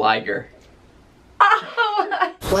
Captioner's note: laughter